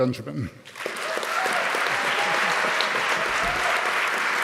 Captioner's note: audience applauding